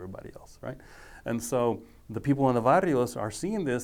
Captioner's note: speaking foreign language